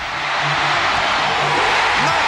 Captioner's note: cheering